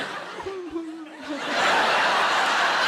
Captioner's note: audience laughing; Sarah humming